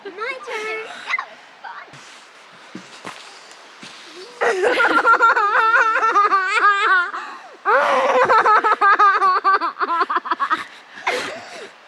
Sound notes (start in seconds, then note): 4.4 laughing